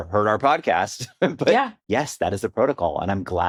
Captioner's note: chuckles